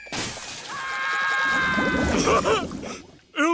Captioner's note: SpongeBob screaming; laughs